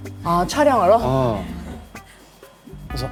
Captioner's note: hahaha